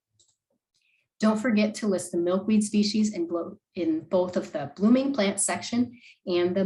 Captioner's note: click